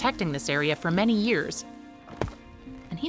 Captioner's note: axe hitting dirt